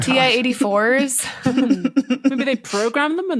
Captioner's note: giggles